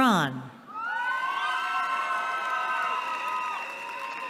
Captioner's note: cheering